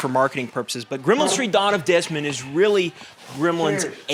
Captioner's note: Desmond's stool scrapes the floor